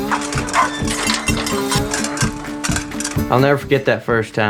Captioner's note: upbeat music resumes; metal clanging